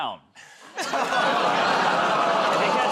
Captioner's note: laughter, groaning